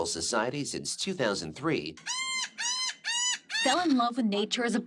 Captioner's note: gull crying